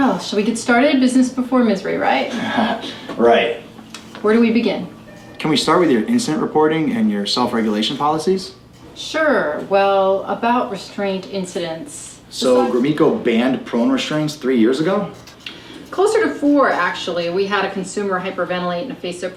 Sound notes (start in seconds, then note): 2.3 laughs